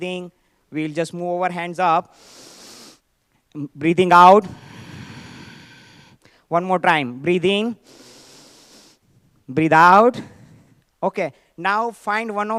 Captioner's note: sighs